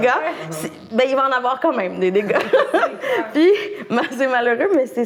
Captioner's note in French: rires